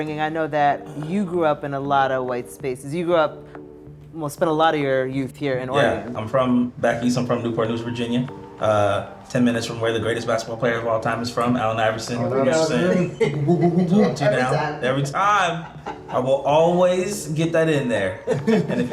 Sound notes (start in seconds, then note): 13.4 cheers